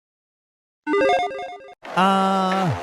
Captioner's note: electronic chiming